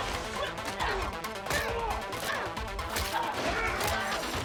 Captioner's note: both grunting; yells